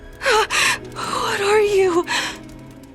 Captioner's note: gasps